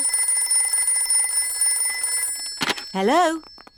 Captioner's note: phone rings